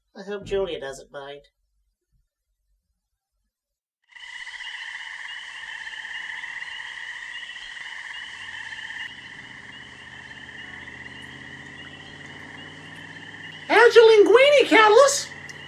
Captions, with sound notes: I hope Julia doesn't mind... [Crickets chirping. Soft city background noises] [Chewing softly] How's your linguine, Cataliss?